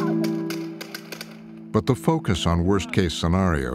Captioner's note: blanks firing